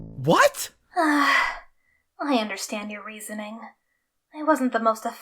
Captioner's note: sigh